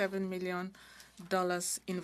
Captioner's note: speaking french